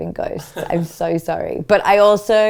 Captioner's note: laughs